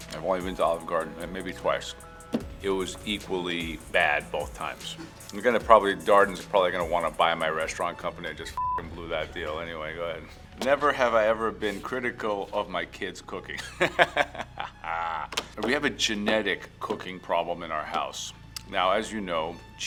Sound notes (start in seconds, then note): 8.5 beep; 13.5 Joe laughs